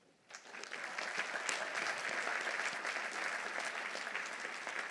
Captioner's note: audience applauding